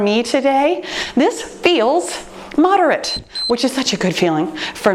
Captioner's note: timer beeps